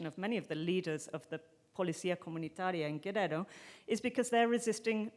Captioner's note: speaking in foreign language